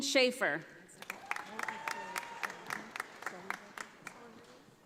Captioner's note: audience applauding